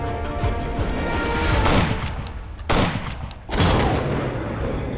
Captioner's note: gunshot